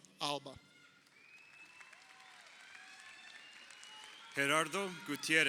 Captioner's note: crowd cheering